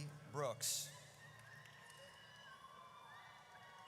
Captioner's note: audience cheers